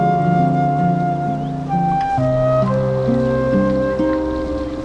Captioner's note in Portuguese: Barulho de chuva